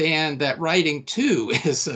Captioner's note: chuckling